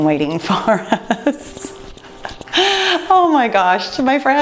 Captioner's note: chuckling